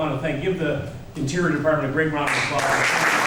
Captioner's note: applause